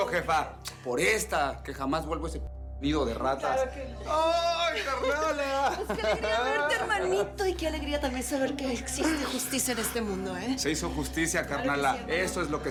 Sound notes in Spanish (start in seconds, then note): 4.6 Ríe